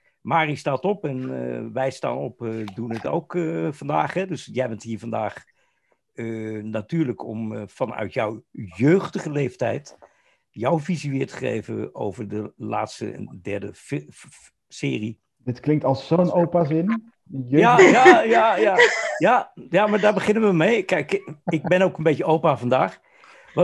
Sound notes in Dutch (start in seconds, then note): 17.6 gelach